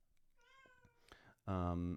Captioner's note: adorable Hispanic cat meows